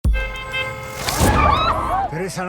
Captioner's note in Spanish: claxon y gritos